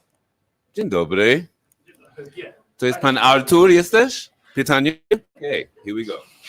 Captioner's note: speaks foreign language